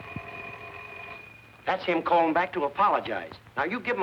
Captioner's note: phone ringing